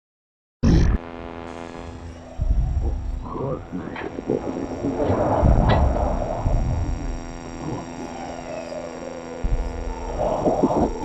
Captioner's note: static and white noise, glitching and faint noises, voices